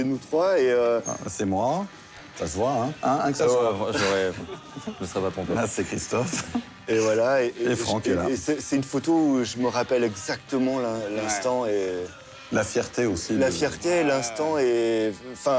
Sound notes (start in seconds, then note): 3.9 laughter